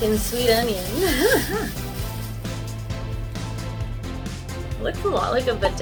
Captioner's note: laughs